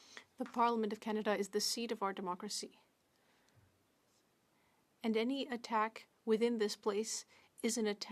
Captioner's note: speaking French